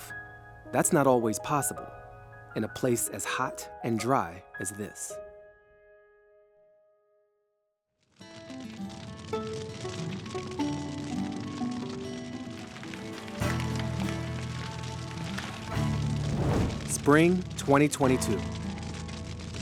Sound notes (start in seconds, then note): 7.9 fire crackling; 9.2 light music